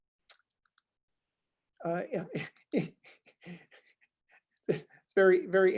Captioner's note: giggles